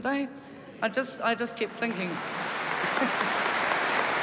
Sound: applause

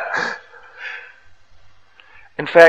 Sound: devotees laughs

